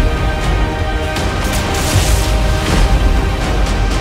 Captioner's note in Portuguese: sons de energia